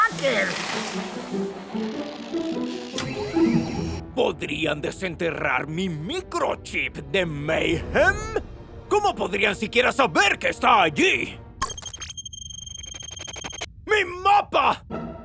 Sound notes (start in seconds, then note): 0.1 playful music; 11.6 computer beeps